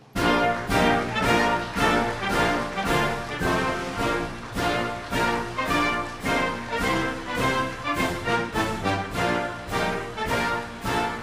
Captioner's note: applause